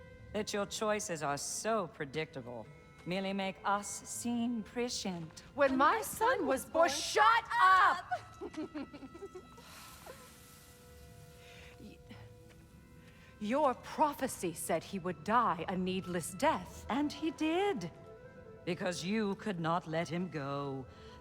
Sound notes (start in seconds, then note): 7.7 laughs; 9.7 sigh